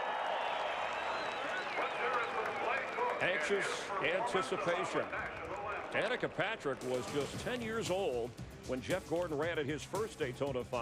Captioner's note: cheers & applause